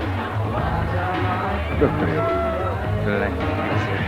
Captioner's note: woman speaks Spanish